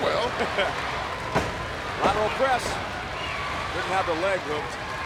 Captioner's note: laughs